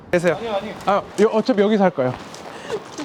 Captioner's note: speaking Korean